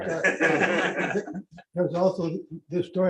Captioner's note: laughter